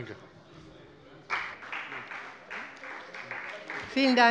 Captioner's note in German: Beifall bei der FDP und bei Abgeordneten der CDU